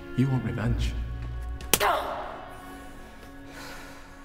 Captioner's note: Ellie grunts